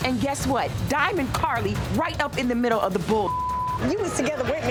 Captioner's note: beep